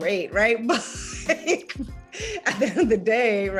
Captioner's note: laughs lightly